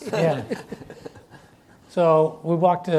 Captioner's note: laughs